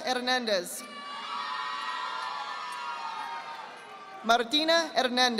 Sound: audience applauding

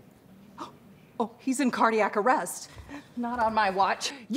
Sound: gasps

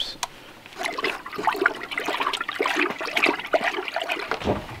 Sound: water gurgling

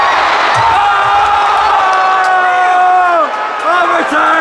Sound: screaming

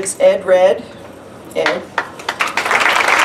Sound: applause

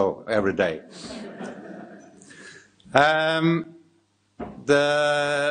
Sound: audience laughing

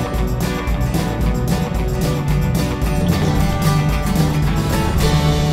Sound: upbeat music; boat engine rumbling

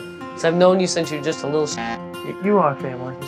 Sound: buzz!

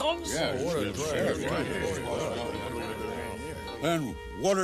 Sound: grumbling

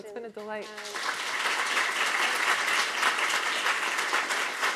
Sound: applause

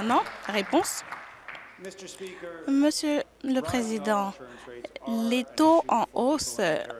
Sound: applause

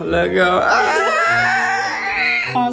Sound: groans

